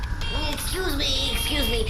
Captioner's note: tinny beeping